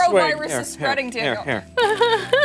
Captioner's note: laughter